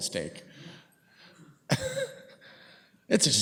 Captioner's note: laughs